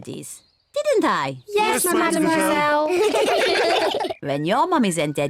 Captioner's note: all laugh